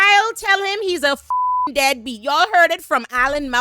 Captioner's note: beep